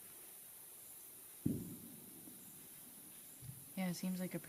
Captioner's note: loud explosion sound